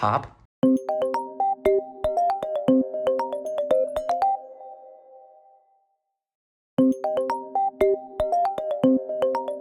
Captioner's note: "Reflection - Pop" Ringtone Plays; "Reflection - Pop" Ringtone Ends